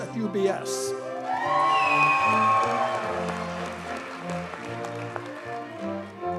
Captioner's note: audience cheers and applauds